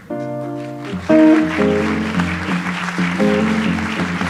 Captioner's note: audience applauds